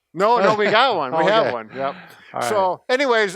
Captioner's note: laughs